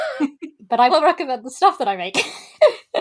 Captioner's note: laughs